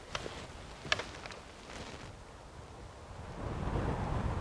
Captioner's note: wind whooshing